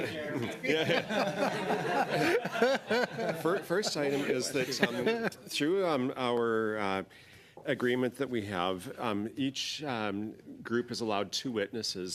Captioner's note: laughter